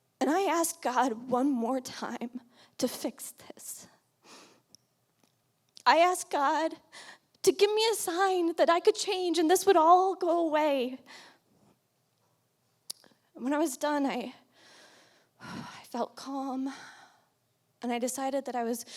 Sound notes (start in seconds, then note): 15.3 exhales